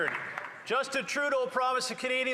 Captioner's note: applause